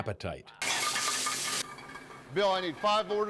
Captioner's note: food sizzling